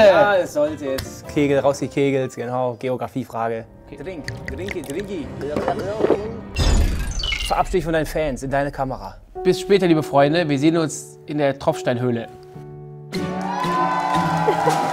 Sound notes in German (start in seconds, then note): 4.2 Schlucken; 4.2 Gluckern; 13.2 Abfallende Töne, Jubel